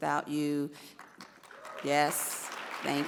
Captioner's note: audience applauds